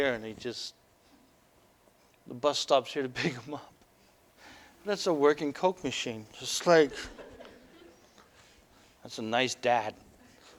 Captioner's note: laughter; audience: Laughter; audience: Laughter